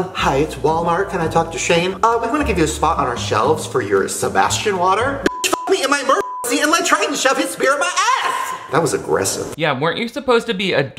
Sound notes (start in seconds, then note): 5.2 beep